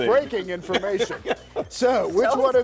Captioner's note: laughter